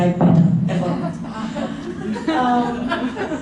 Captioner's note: laughter